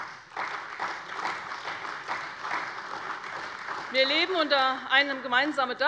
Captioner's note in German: Beifall bei der CDU und dem BÜNDNIS 90/DIE GRÜNEN